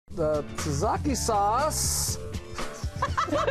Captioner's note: laughter